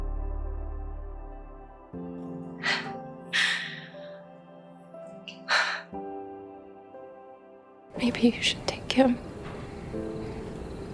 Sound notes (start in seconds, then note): 3.3 June inhales and exhales